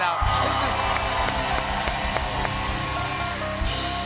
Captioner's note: cheers and applause